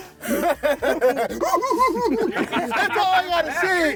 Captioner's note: cackling